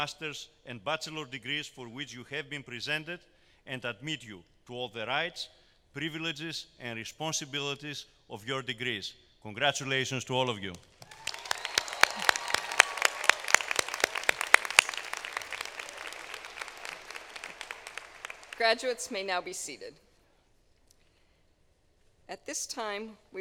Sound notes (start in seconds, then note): 12.3 applause